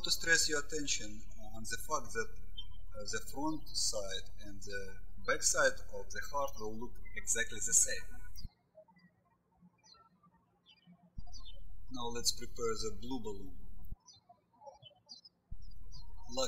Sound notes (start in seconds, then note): 9.0 birds chirping